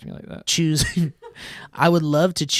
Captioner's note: laughing